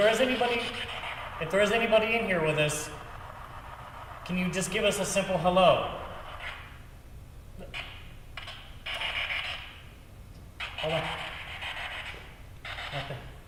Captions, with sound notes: If there is anybody, if there's anybody in here with us, can you just give us a simple hello? (static buzzing) Hold on. (laughs)